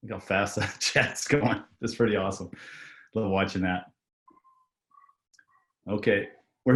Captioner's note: laughs